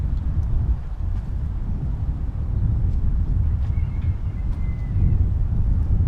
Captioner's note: wind howling continues